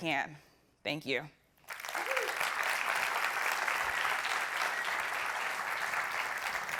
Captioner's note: applause